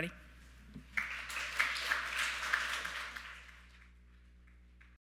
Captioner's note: audience clapping